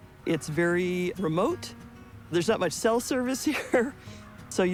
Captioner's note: chuckles